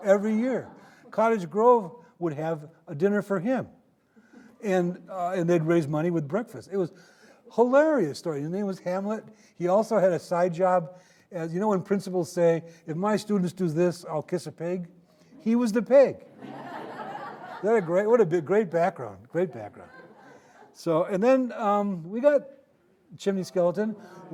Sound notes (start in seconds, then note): 16.3 audience laughing